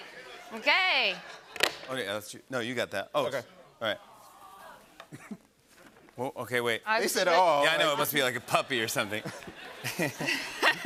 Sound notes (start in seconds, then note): 4.7 audience "Awws"